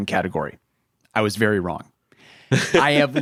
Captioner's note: chuckling